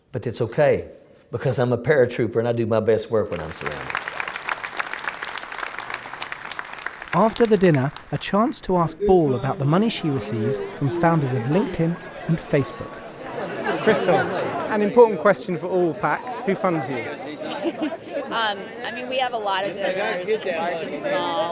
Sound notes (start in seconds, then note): 3.3 applause